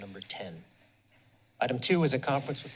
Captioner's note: pause